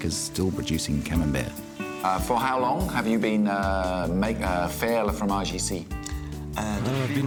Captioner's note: speaks french